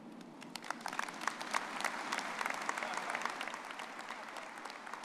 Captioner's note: audience applauding